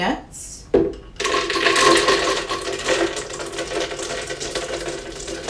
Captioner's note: peanuts clattering